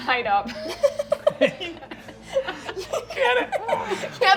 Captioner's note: players laughing